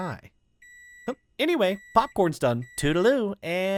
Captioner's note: mircrowave Ding Noise